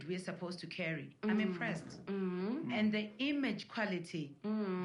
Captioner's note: others agreeing